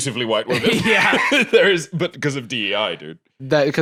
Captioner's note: laughs